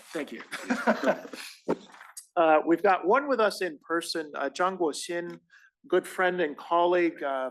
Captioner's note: laugh